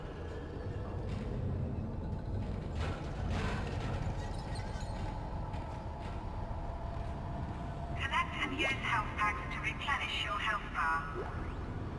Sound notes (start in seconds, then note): none